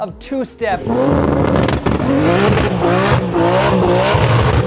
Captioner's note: car roars